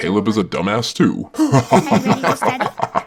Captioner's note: evil laugh